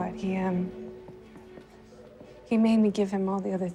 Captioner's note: none